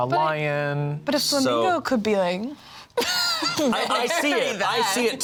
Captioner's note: laughs